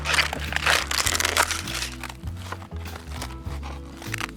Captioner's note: luffa skin crunching